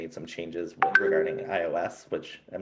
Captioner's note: device beeps